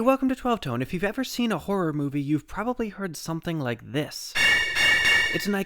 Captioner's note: bang